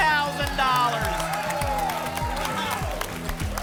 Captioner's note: applause and cheering